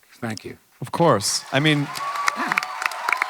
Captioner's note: audience clapping and cheering